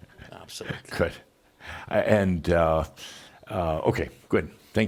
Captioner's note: chuckling